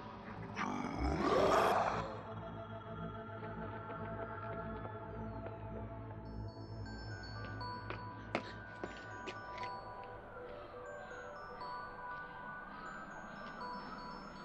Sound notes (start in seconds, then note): 0.5 snarling; 7.1 footsteps echoing; 7.1 music-box music